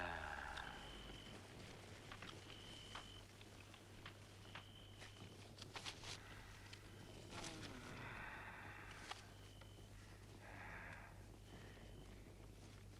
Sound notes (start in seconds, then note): 7.7 Torente moaning